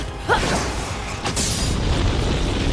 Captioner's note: tink-BOOOOOOM